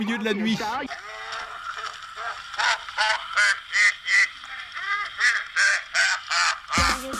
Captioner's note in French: rire ralenti mécanique extrêmement malsain